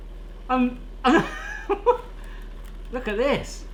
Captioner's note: laughing